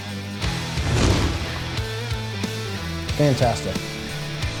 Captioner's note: whooshing